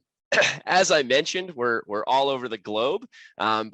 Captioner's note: coughs